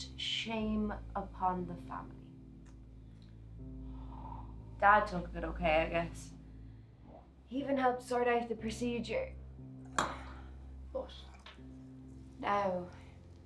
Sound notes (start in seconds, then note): 9.9 glass being put down